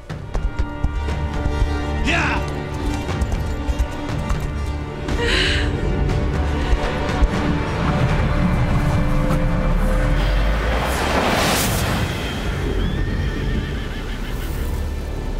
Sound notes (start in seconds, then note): 3.0 horse gallops; 7.4 eerie wind blows; 11.6 heavy wind hits; 12.7 horse whinnies